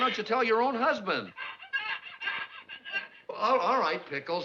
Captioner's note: pickles crying on phone